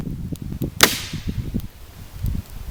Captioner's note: snap